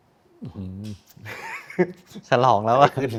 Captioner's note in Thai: เสียงหัวเราะ